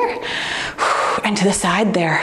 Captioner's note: softly exhales